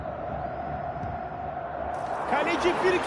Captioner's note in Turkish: coşkulu tezahürat